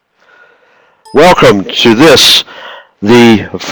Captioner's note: voiceover